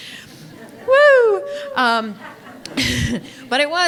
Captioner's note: audience laughing